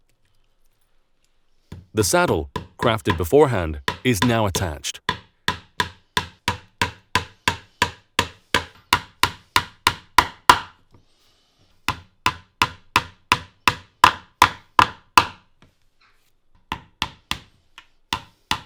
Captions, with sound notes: The saddle crafted beforehand is now attached. (hammer banging)